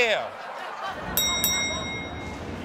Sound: bell rings

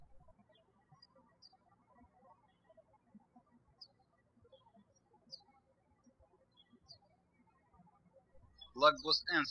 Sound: birds chirping

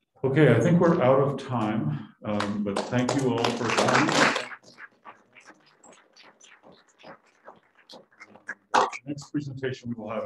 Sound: applause

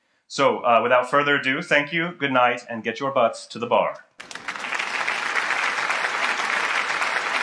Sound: applause

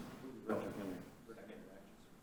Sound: chattering

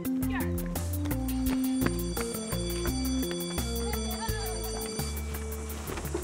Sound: school bell rings

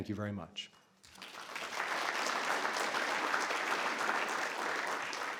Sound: audience clapping

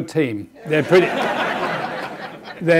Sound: audience laughing

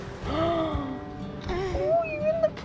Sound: gasps

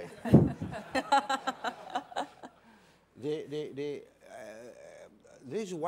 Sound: laughter

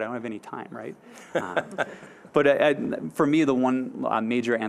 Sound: audience laughing

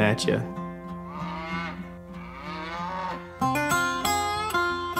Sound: cows mooing

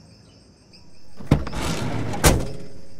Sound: door closing

